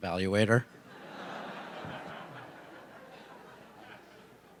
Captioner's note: laughter